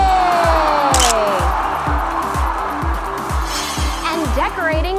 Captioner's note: camera shutter clicks